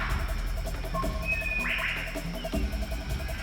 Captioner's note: birds calling